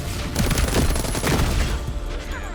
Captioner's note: gun stuttering